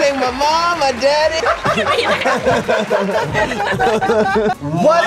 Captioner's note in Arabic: الجميع يضحك